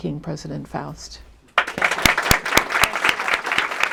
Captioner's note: applause